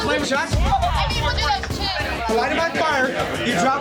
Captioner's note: crowd talking loudly